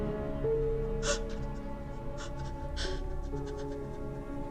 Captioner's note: sobbing